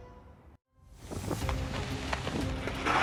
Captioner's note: suspenseful music; wind wooshing; shovel scraping